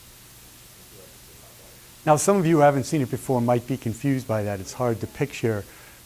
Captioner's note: none